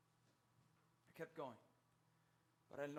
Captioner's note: speaks in Spanish